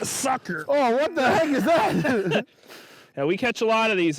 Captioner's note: laughing